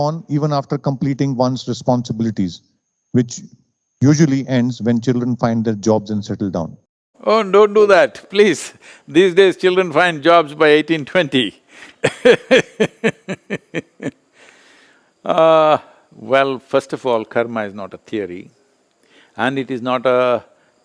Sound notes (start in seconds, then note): 11.8 laughs